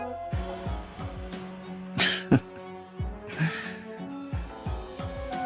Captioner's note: scoffs